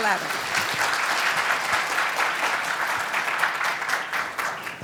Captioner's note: audience applauding